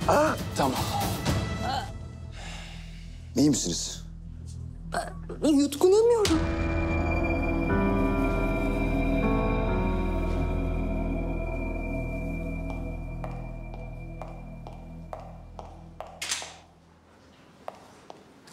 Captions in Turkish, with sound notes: Tamam. İyi misiniz? Ben yutkunamıyorum. (Gerilim müziği) (Yaklaşan ayak sesleri) (Kapı açıldı)